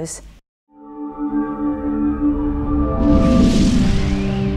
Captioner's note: logo whooshing